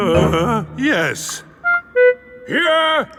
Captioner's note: groans